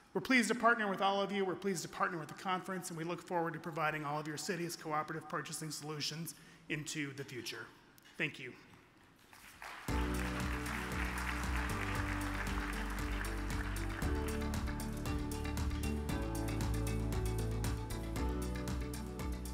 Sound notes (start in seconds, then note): 9.2 audience applauds; 9.8 up beat music